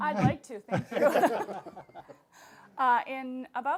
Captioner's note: laughing